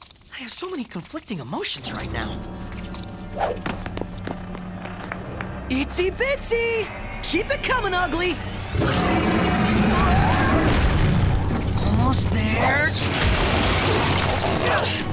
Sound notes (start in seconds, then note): 5.3 clapping; 8.7 roaring